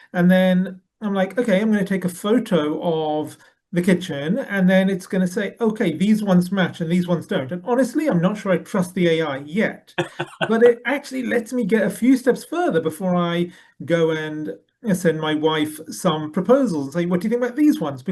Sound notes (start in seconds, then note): 9.9 laughs